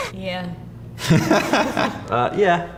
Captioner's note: interviewee laughs